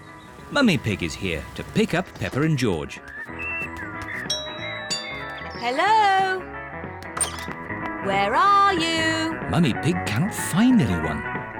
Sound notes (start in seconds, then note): 4.3 doorbell rings